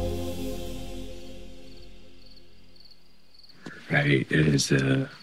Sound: crickets chirping

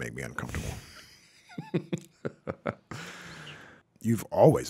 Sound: laughing

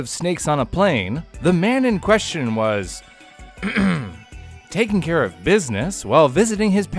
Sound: ahem

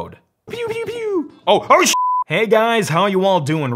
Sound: beep

